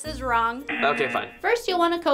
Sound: buzzer rings

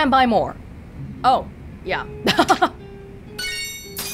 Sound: chuckles

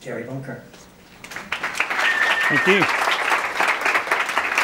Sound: audience applauds

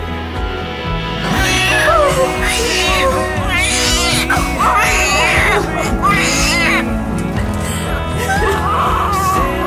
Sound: baby cries

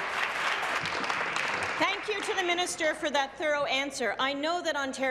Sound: voice trailing

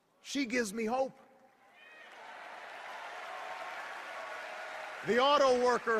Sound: cheers and applause

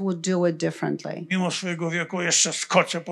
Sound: foreign language

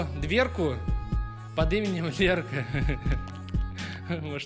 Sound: laughter

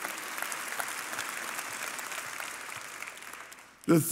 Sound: congregation applauding

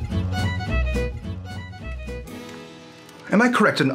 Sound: hearth fire crackling

